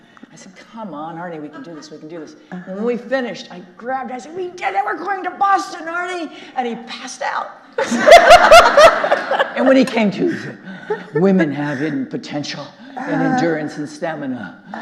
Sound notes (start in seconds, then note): 7.7 all laughing; 11.4 imitating Arnie